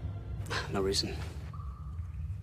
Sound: sighs

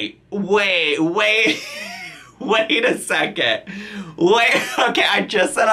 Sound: laughs

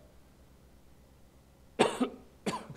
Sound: coughs

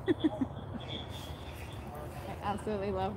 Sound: laughter

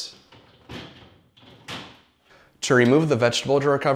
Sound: plastic clicks

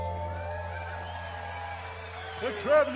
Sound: applause, cheering

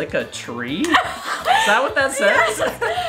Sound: gasp

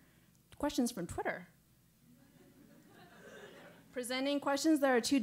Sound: laugh

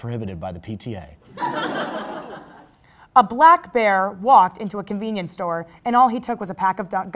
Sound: crowd Laugh

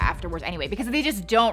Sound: booming sound

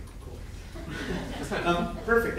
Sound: laughing

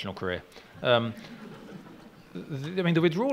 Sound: laughing

